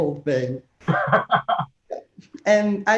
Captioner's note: laughing